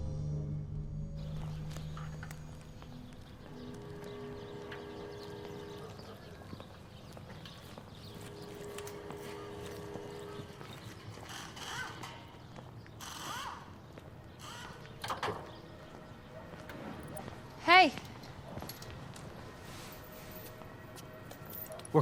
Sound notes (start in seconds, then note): 0.3 birds chirping; 5.7 dog barks; 11.2 machine whirring